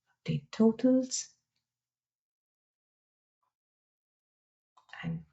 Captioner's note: silence